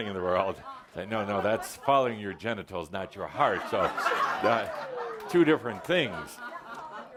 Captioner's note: laughter